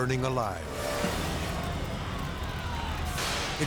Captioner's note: fire crackling; crew members shouting